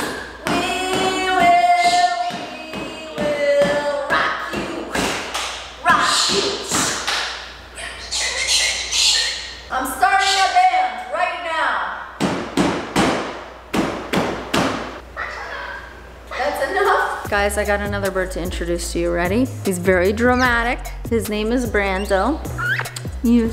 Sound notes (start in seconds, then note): 7.8 bird squawking; 11.9 smacking on box; 15.2 bird squawking